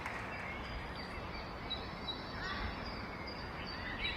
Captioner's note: birds are tweeting